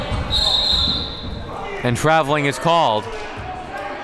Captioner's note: whistle blowing